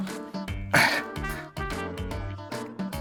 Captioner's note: grunts